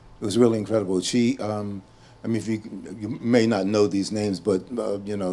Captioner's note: none